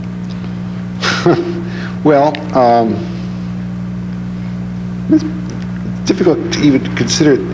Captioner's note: laughs